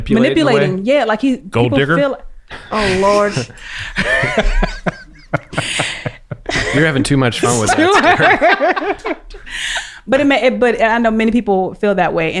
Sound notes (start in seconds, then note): 7.4 everyone laughs